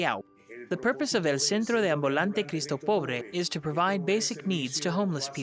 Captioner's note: speaks foreign language